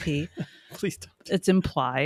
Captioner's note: chuckles